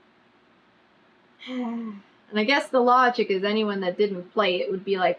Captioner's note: sighs